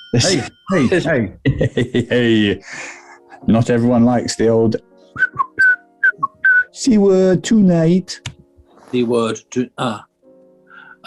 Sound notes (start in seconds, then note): 0.1 sniggering; 1.4 laughing; 5.1 ♫ whistles jaunty melody